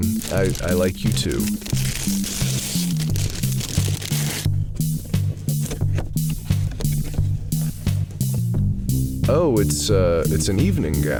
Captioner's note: box opening